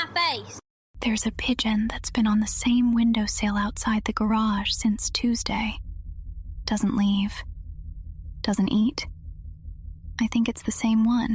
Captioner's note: whispers